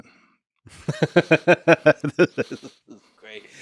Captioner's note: Lex laughs